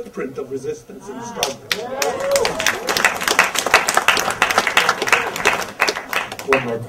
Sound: audience applause and cheer

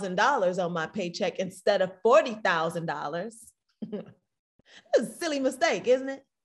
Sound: snickers

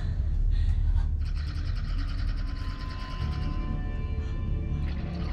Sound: growling

